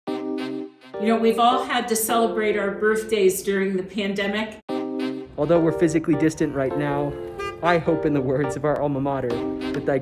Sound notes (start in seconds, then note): 0.0 bright instrumental music; 6.4 car honks